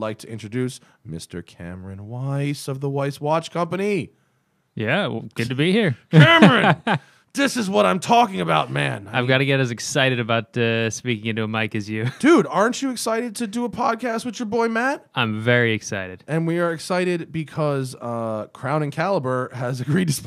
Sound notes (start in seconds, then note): 6.1 laughter; 12.0 laughter